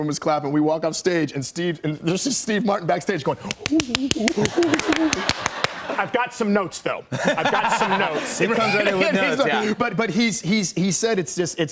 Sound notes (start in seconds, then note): 4.2 laughter